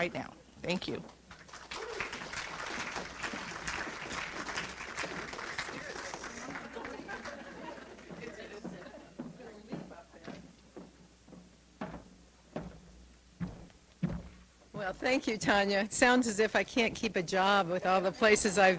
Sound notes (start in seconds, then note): 1.3 audience applauds